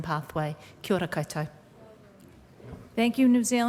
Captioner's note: speaking maori